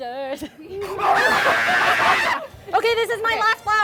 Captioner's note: screams